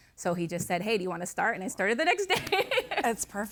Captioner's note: laughing